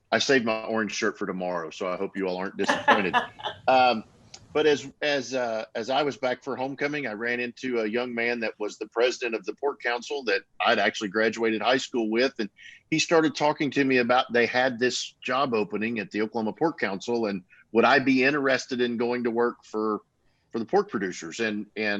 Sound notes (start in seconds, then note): 3.1 laughing